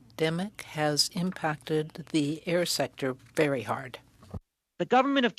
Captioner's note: speaking French